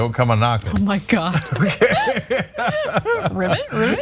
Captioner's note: laugh